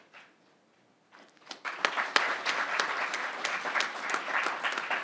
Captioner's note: crowd applauding